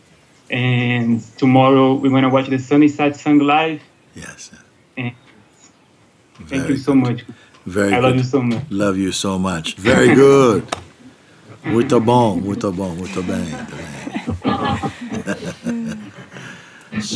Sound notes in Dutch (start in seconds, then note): 12.9 Mooji spreekt Portugees; 14.5 gelach